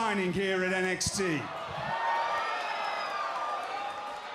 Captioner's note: cheers and applause